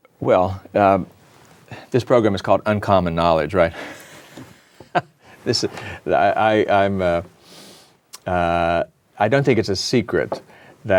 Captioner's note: laughter